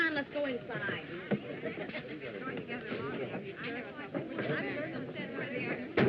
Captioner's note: chatter